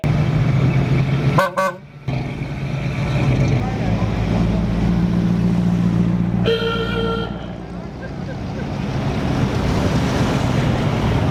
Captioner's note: car honks and sounds